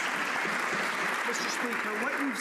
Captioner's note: some Applause